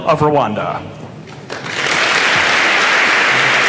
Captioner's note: applause